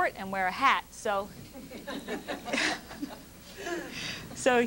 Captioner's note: laughter